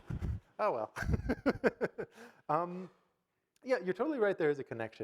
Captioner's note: audience laughing; laughs